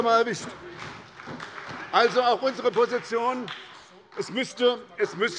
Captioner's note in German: Beifall bei der SPD